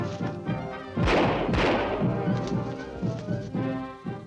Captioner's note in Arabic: سكين يضرب شجرة; موسيقى أوركسترا مثيرة; إطلاق نار